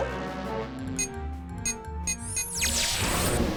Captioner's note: beeping